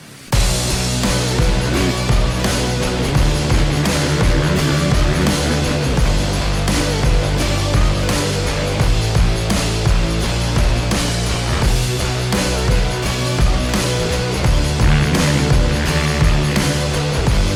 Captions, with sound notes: and we still do it. [ENGINE REVVING]